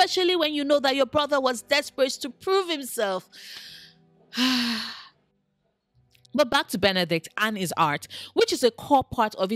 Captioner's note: sigh